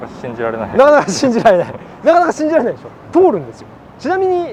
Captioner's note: laughs